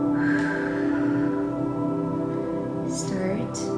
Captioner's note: exhaling